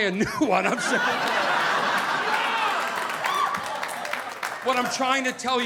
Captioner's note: audience laughing